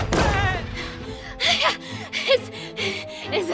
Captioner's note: Mera panting